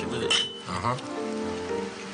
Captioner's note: glasses clink; romantic music